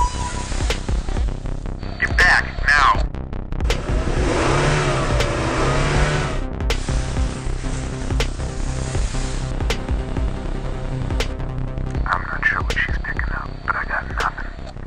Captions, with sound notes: Get back, now! (engine revving) I'm not sure what she's picking up, but I got nothing.